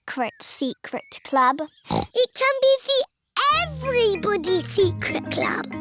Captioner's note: snorts